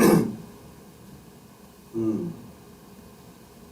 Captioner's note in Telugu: గొంతు సవరించుకోవడం